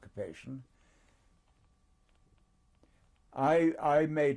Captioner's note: pauses for 3 seconds